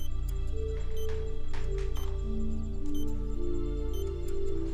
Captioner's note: machine beeping